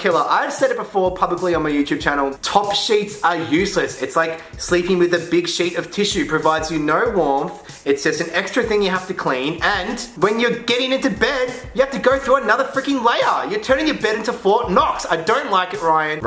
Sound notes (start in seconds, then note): none